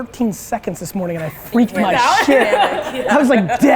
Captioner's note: women laughing